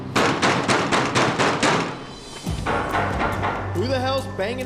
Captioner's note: banging